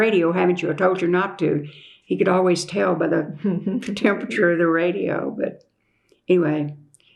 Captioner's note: laughter